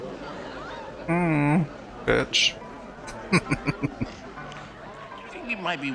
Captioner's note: chuckling